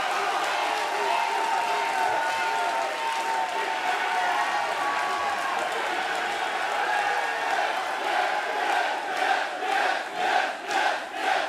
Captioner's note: cheers and applause